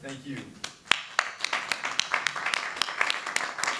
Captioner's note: clapping